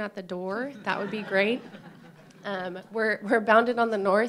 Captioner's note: laughter